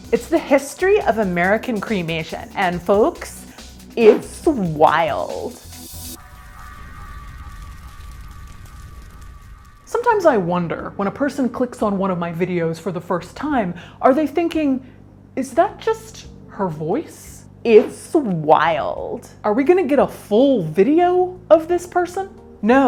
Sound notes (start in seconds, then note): 5.4 fire crackles; 6.4 ominous music